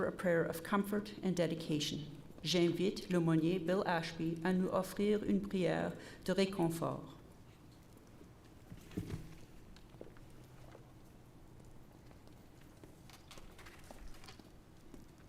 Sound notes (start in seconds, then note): 3.2 repeated in French